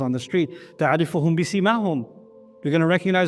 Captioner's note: Arabic